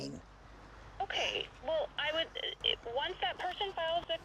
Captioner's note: voice on Other End of Phone